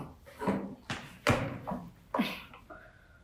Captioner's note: sigh